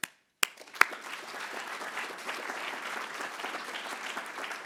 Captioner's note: attendees applauding